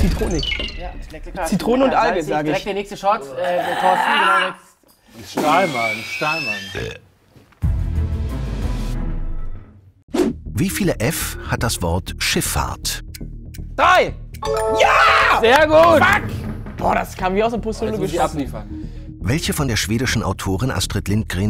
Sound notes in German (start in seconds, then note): 5.4 Quietschen, Rülpsen; 7.5 Spannende Klänge; 14.1 Klingeln